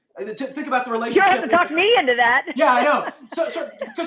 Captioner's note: laughter